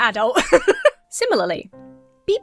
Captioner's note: laughs